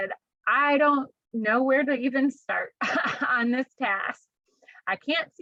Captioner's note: laughter